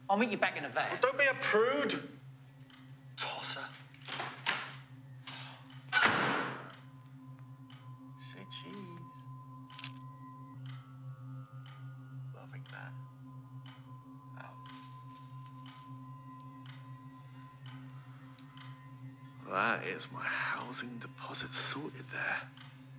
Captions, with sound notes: I'll meet you back in the van. - Well don't be a prude. Tosser. (door closes) (ominous music) (clock ticking) Say, cheese. (shutter clicks) Well I like that. Oh. That is my housing deposit sorted, there.